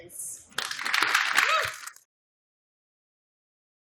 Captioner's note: applause